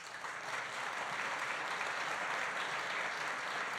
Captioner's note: applause